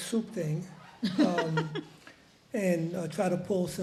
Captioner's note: woman chuckles